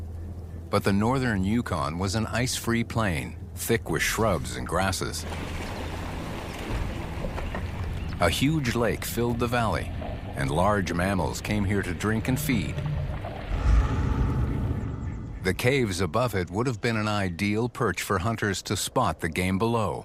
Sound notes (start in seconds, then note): 5.1 thunder rumbling